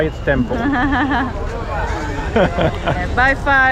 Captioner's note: laugh